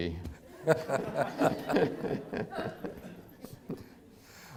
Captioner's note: audience laughs